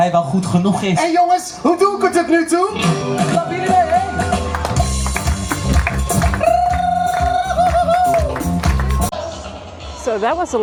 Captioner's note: applause